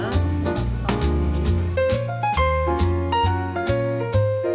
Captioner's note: sobs